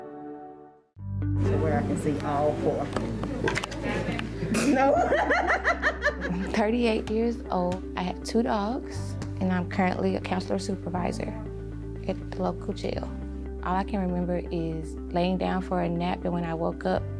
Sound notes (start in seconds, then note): 3.6 laughing